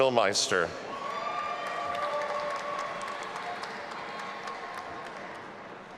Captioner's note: audience applauding and cheering